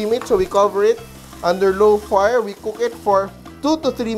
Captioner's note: sizzle